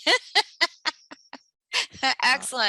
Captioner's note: laughter